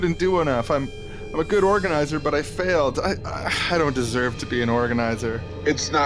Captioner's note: sigh